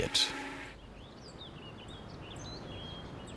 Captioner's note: birds chirping